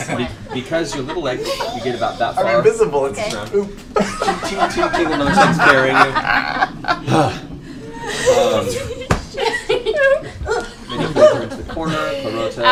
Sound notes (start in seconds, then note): 6.0 laughter; 7.0 sighs; 7.8 grunting and laughter